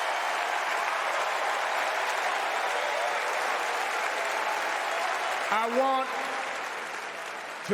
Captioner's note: cheers and applause